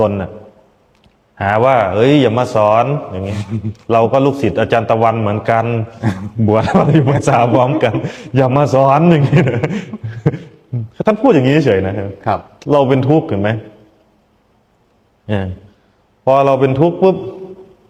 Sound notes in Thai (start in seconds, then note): 9.3 เสียงหัวเราะ